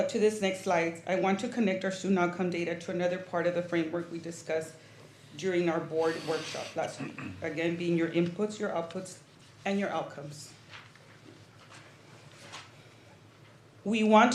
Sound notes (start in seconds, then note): 6.1 snorts; 6.8 clears throat